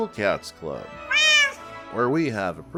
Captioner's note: meow